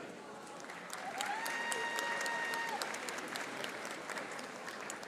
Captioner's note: audience applauding